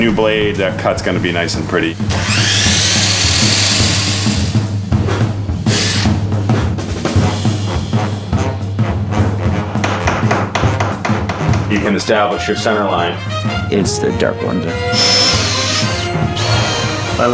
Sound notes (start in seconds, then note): 2.1 chop saw roars